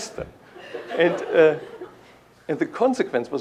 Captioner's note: laughter